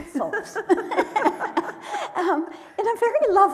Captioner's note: laughing